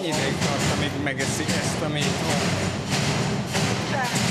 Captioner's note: speaking in Hungarian